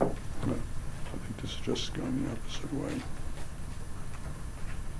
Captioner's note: speaking faintly